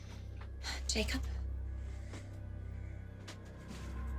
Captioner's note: sighs